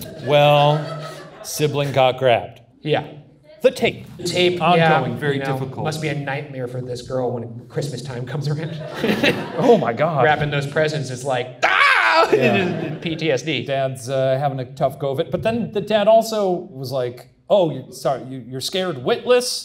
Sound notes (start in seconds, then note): 8.6 audience laughs; 11.6 screams